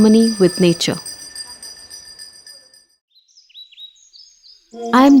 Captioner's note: bell jingles; moves into bird chirping